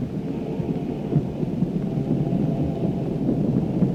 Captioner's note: thunder rumbling